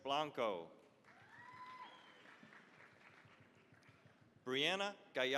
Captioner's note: cheering, applause